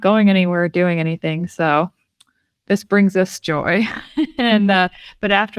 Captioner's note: laughs